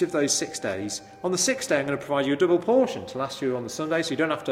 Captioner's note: sinister drone sound effect plays